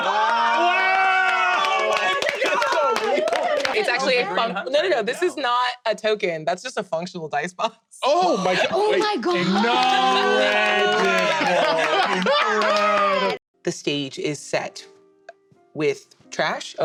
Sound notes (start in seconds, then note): 0.0 applause and wows; 9.2 sounds of astonishment